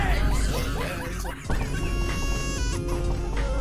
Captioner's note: baby crying